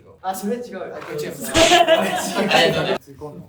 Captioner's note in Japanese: 笑い声